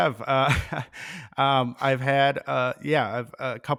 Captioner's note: chuckles